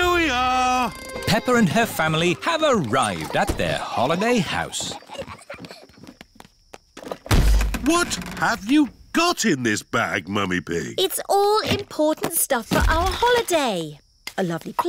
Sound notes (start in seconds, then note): 5.6 peppa and george giggling; 7.2 thud